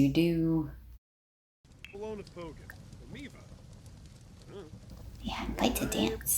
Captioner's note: sims talking